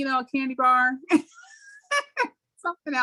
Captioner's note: laughs